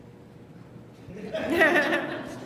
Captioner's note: laughter